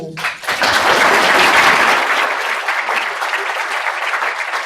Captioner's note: audience applauding